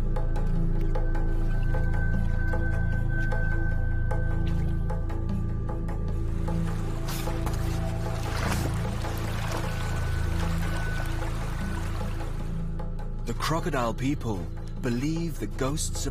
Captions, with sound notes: (dramatic music) (water splashing) The Crocodile People believe the ghosts of the dead linger here. (light drumming)